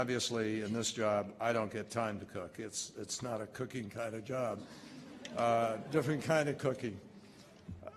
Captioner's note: laughter